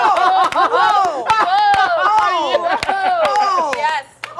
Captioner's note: cheers and accolades